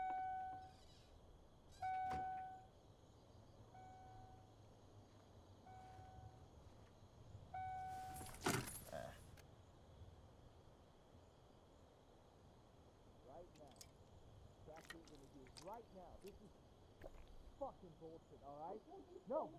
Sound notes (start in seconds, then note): 0.1 indicator beeping; 7.9 key rattles